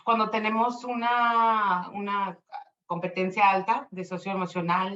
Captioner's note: speaking Spanish